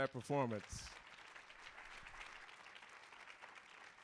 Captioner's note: applause